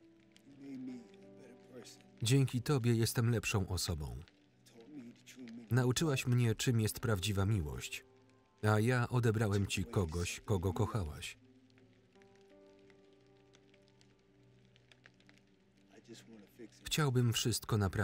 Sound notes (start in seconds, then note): 11.0 calm piano music; 11.0 rain falling